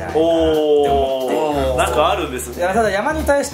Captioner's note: laughs